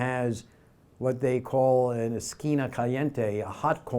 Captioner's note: foreign language